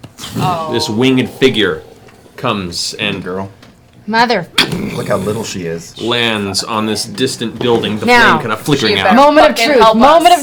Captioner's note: crashing